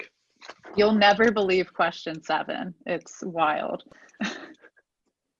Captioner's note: chuckles